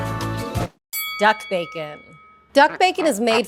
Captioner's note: bell rings